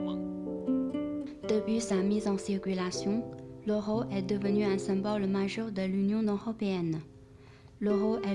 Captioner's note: French